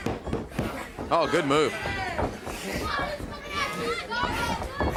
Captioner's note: crowd cheering